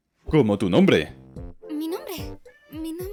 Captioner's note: none